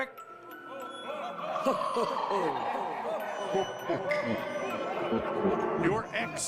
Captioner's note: "ho, ho, ho" echoing through the room